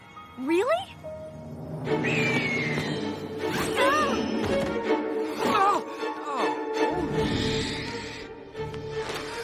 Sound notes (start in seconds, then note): 1.9 screeching; 3.7 yelling